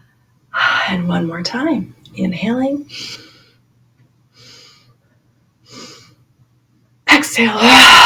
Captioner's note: inhale... inhale...inhale